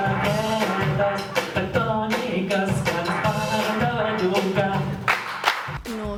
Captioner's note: audience applauds x2